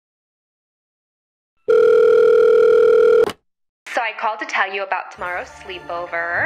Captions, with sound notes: (Phone rings) So I called to tell you about tomorrow's sleepover.